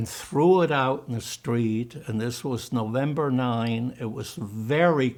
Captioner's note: german